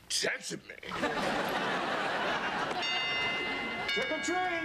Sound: doorbell rings

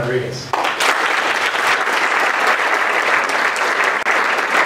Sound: applause

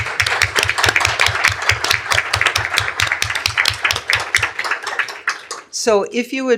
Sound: applause

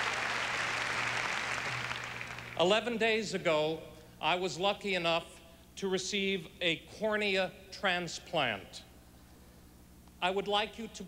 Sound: applause

